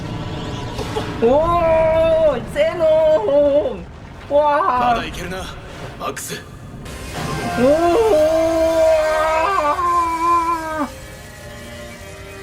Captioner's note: someone screams while watching live